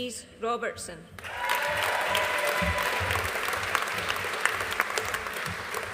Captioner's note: audience applauding